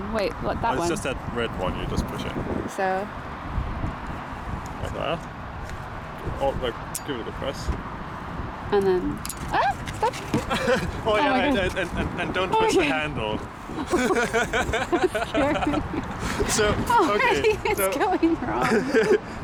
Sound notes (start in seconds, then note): 10.1 laughing